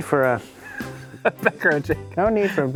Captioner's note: laughs